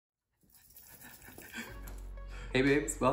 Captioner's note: jewelry clanking